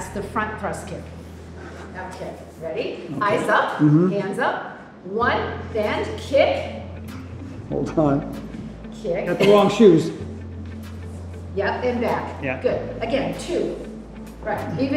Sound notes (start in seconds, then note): 9.4 Cynthia chuckles